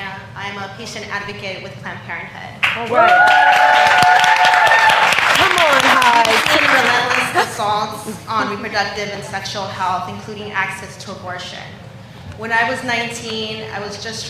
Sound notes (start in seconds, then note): 4.5 cheers and applause